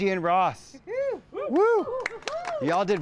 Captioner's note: group cheers and applauds